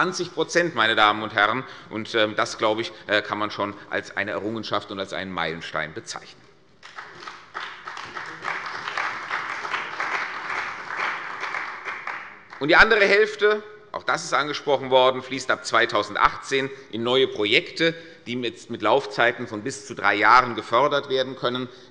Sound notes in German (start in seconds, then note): 6.8 Beifall bei der CDU und dem BÜNDNIS 90/DIE GRÜNEN